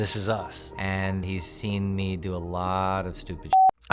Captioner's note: beeps